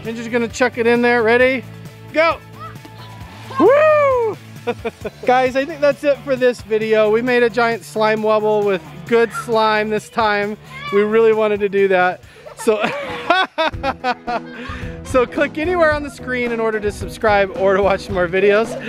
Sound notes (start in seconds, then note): 2.8 splashes; 4.3 laughs; 12.3 laughing